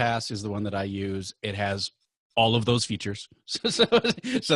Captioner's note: laughing